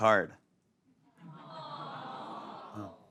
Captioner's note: audience awws